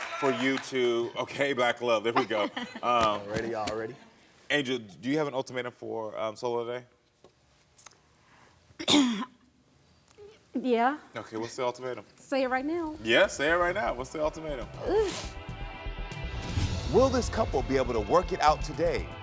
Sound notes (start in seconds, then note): 8.8 clearing throat